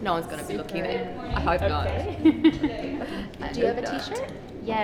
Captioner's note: laughs